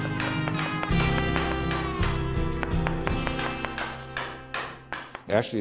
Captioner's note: hammering